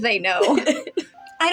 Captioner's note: laugh; laughing